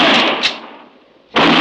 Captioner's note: gunshots